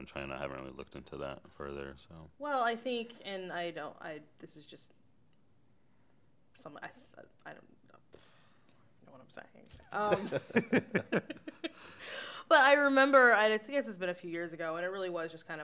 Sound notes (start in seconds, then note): 10.0 chuckles